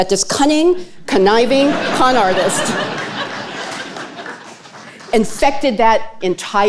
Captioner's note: audience laughing